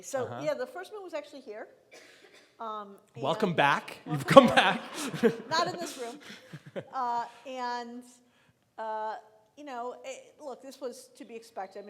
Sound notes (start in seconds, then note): 4.0 laughing